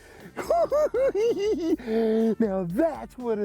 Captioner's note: cackling